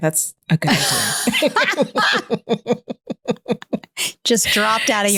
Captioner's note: both laughing